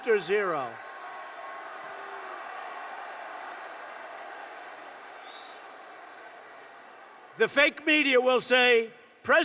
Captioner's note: applause